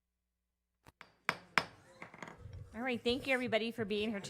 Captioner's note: gavel